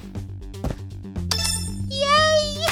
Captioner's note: button press